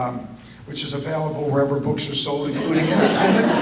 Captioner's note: audience laughter